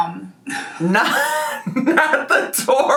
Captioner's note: laughing